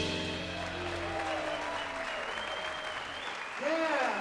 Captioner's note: audience applauding